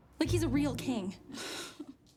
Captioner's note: sighs